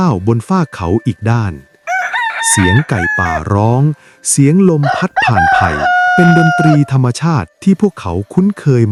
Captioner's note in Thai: เสียงกรีดร้อง